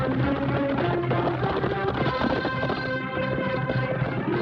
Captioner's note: horses galloping